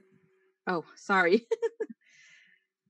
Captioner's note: laughs